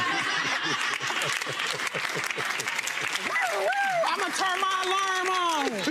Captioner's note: laughs; audience laughs